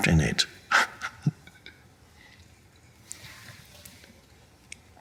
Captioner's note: Eckhart laughing